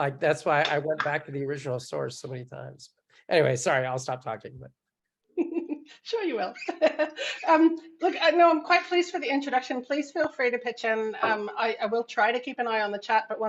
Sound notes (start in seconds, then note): 7.5 laughs